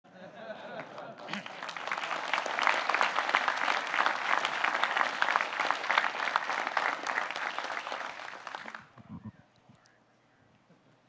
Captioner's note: audience clapping